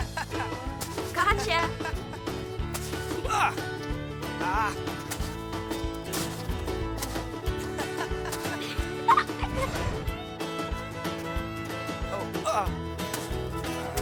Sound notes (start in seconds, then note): 0.0 Jack laughing; 4.4 Jack grunts; 7.5 both laughing